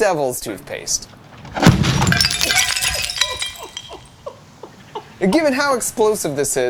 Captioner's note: glass shattering; Devil's Toothpaste explodes